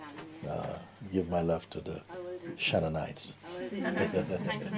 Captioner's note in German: Lachen